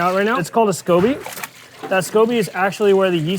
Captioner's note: mixture splashes; mixture trickling